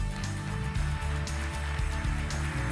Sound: applause

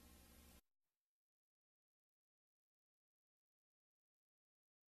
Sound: silence

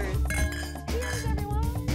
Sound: glasses clink

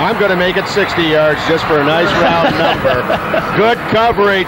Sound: laughs

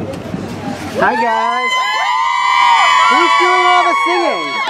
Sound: cheers

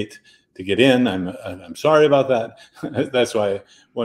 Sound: chuckles

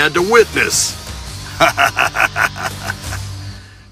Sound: "evil" laughter

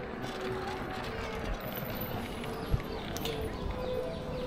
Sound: birds chirping

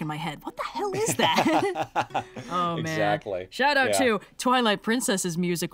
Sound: laughs

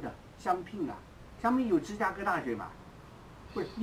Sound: mandarin

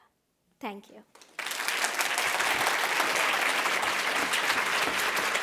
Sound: audience applauding

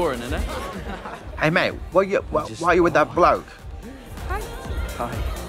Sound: British accent

